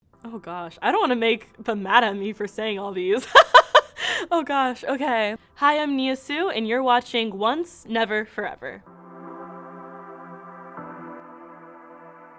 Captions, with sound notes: - Oh gosh, I don't wanna make them mad at me for saying all these (laughs)! Oh gosh. Okay, hi, I'm Nia Sioux, And you're watching Once Never Forever. (soft jazzy music)